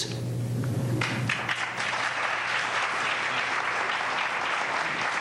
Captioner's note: applause